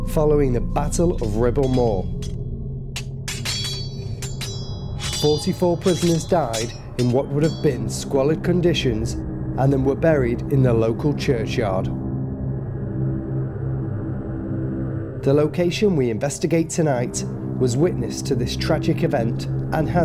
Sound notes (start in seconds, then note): 2.9 swords clanging